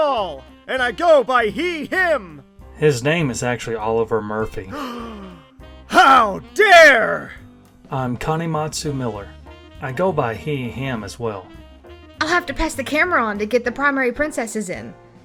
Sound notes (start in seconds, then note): 4.7 gasp